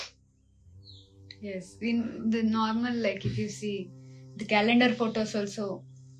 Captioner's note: नाक से की जाने वाली आवाज़